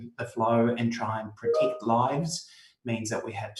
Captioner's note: computer notification rings